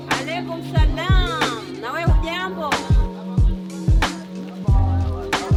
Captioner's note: speaking foreign language